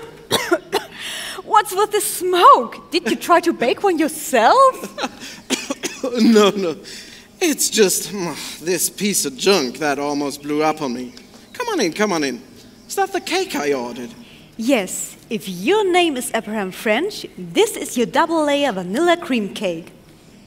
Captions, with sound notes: What's with the smoke? Did you try to bake one yourself? *cough* No no, it's just this piece of junk that almost blew up on me. Come on in, come on in. Is that the cake I ordered? Yes, if your name is Abraham French this is your double layer vanilla cream cake.